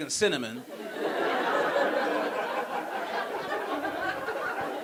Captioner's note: audience laughing